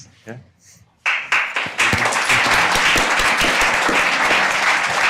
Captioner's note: audience applauding